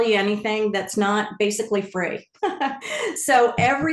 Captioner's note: chuckles